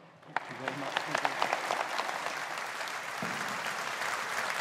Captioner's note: audience applauding